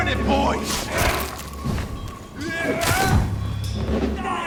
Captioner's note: characters grunting